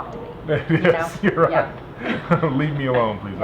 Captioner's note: laughs